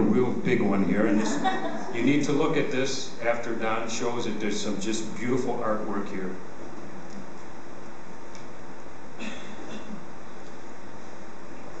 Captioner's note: laughter